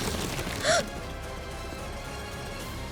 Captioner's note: gasping